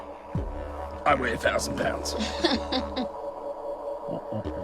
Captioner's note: laughter